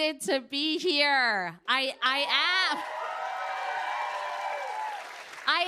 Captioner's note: cheers and applause